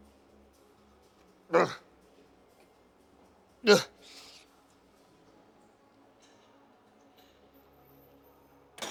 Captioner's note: grunting